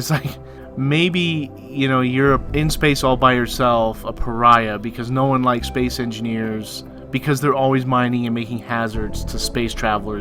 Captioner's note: chuckles